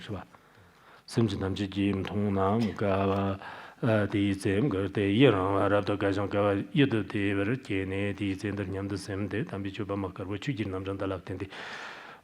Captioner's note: giving oral transmission in Tibetan